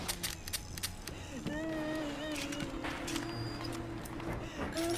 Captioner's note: whimpering